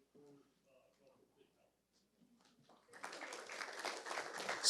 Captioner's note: audience applauds